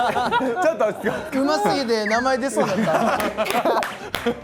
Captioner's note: laughs